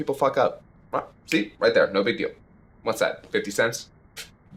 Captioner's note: snaps fingers